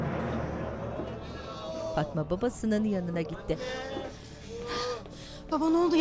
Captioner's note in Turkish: İnleme sesleri